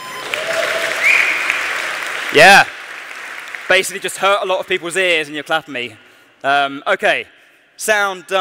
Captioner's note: applause